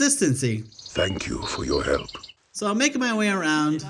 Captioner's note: in Kevin Michael Richardson's deep, sultry voice